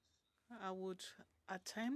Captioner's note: speaking French